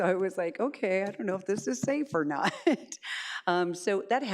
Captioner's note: laughs